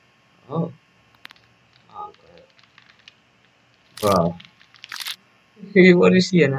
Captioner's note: flesh creaking